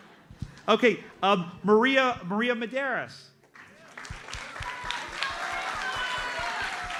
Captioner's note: audience applauds